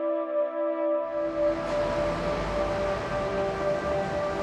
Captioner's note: traffic humming